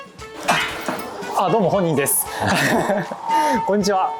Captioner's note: laughs